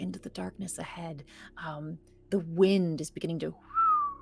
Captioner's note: whistling